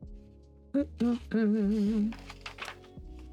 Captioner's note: humming